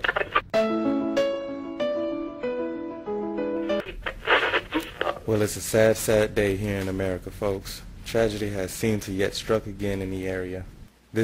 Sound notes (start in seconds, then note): 0.5 melancholy music; 5.6 radio Announcer